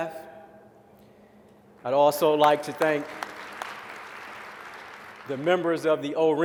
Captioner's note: applause